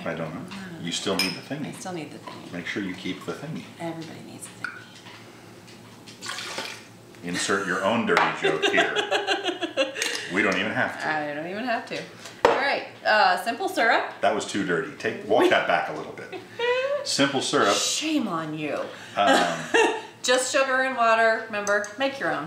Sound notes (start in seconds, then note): 8.4 laughing